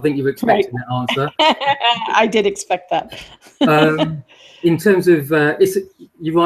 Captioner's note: laughter